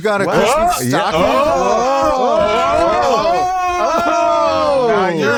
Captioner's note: all exulting